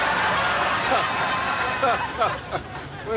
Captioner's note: laughing